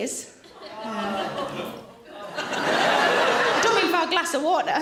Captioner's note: audience laughing loudly